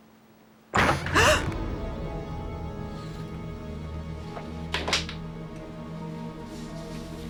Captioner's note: door creaking; gasping